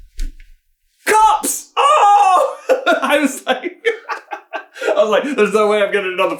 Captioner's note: giggles joyfully